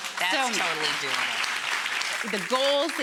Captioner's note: audience applauds